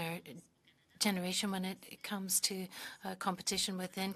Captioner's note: speaking French